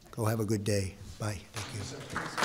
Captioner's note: applause